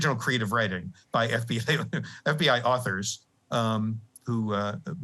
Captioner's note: laughter